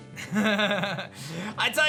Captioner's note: laughs